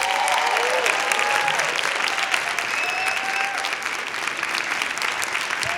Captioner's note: applause